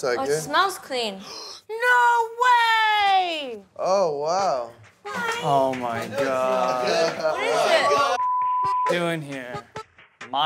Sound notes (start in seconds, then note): 1.7 gasps; 8.1 beep